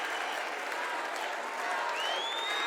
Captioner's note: cheers and applause